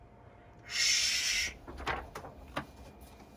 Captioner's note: imitates spraying